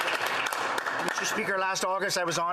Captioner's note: applause